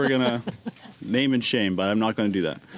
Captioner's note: laughter